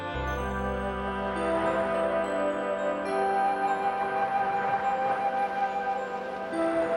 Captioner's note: waves crashing; soft orchestral music